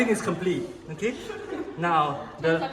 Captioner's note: everyone laughs